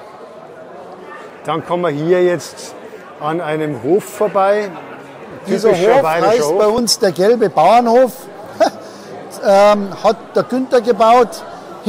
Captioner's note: laughs